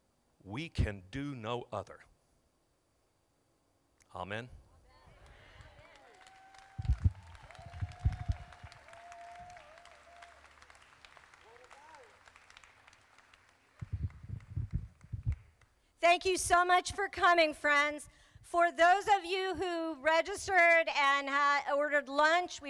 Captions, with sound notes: We can do no other. Amen. - [Crowd] Amen. (crowd applauding) - Thank you so much for coming friends. For those of you who registered and ordered lunch,